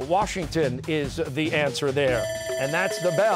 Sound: bell ringing

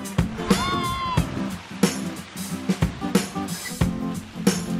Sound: boys shouting

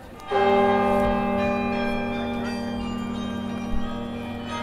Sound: tower chimes and bells

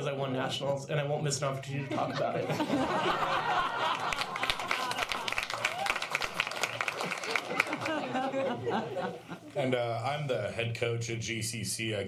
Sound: applause

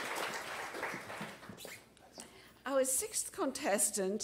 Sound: applause

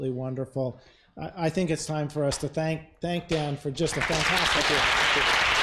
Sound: applause

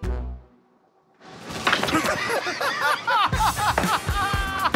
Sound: laughter

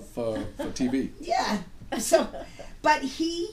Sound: voiceover

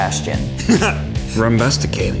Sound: laughing

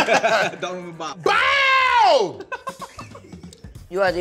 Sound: laughs

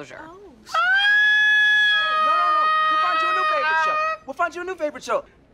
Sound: ABED shrieks loudly

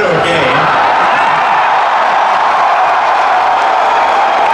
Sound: crowd cheering

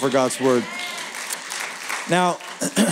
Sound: applause

